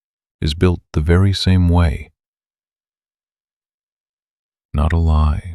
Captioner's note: short pause